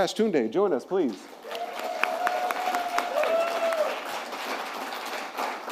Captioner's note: applause